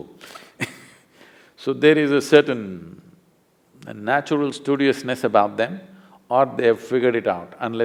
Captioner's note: laughs